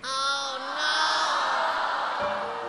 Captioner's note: crowd dismayed